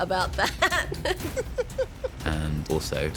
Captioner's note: chuckling